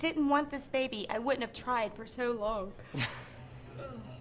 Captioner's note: yawns; laughs